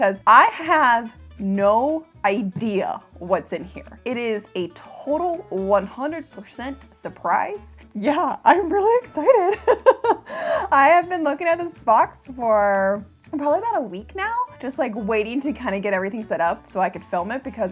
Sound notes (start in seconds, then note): 9.4 laughs